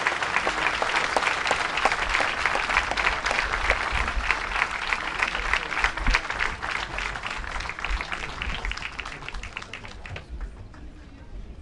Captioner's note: applause